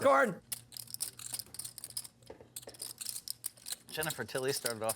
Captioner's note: chips clatter